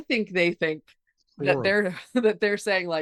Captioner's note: faintly speaking